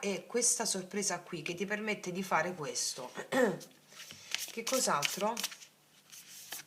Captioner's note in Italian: schiarire la voce